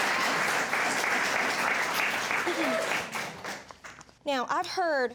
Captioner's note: audience applauding